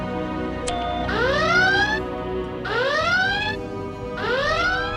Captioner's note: alarm